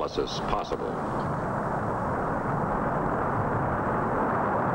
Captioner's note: whirring